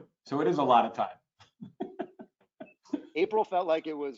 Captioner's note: laughs